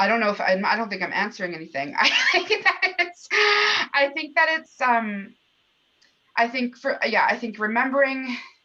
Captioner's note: laughter